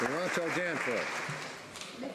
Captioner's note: some Applause